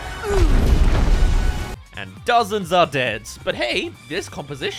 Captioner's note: crash